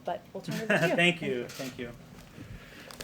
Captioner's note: laughs